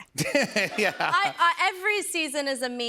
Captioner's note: laughs